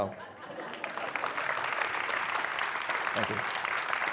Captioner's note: participants applauding